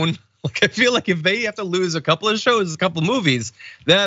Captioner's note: laugh